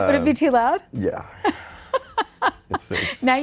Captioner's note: laughing